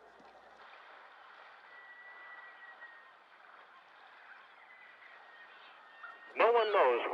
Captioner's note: water lapping